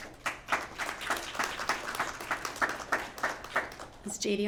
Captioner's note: applause